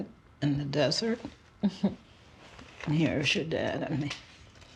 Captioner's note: chuckles